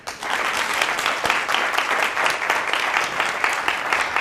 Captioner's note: audience applauding